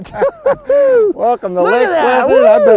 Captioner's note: laughter